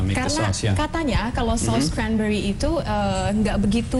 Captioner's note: non-english speech